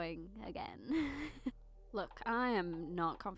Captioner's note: laugh